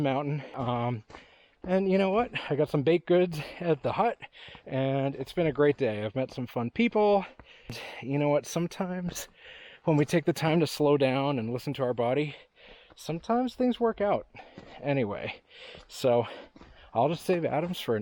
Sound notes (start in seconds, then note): none